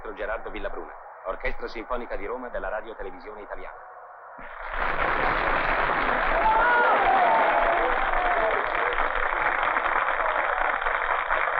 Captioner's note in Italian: Applauso